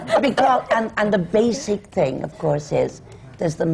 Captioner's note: laughter